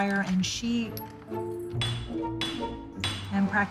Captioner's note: hammering